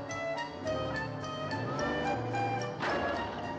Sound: sputtering car approaches

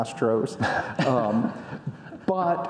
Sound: audience laughing

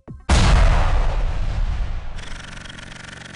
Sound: booming; drill whirring

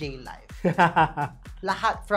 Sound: laughs

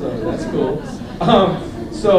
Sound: laughter

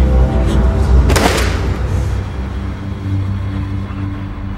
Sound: thudding

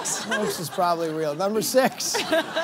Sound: laughter

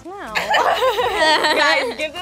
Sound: laughing

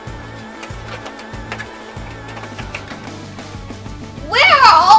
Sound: footsteps pattering

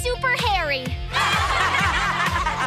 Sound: laughing

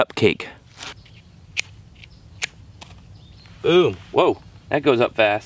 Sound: sticks clicking

